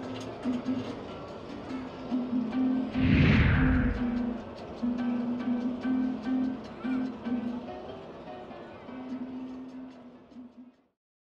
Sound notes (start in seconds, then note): 2.9 air whooshes; 3.1 upbeat music continues